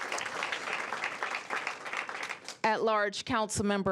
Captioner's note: applause